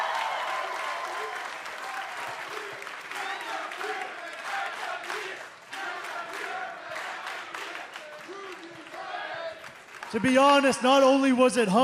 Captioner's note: cheers and applause